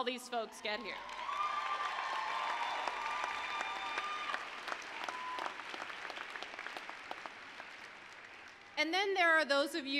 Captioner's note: applause, cheering